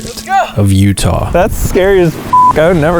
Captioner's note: beep